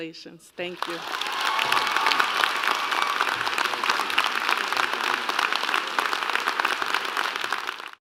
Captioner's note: applause